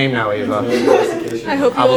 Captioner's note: laughter